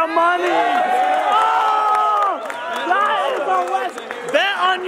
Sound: group cheers

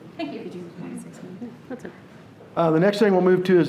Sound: whispering off microphone

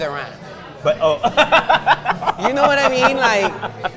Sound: laughs

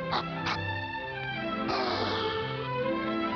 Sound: wolf whistle

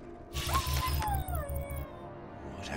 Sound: whimpering

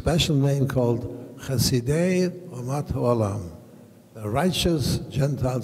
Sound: speaking in foreign language

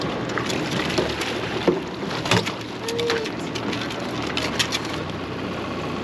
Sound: fish splashing; fish thrashing; reel cranking

